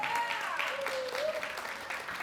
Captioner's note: applause